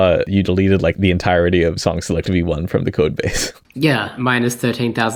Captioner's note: chortles